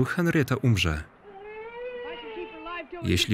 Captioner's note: baby crying